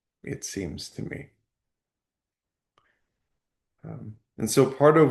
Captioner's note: pause